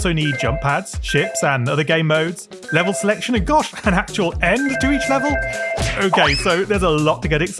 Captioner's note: laughs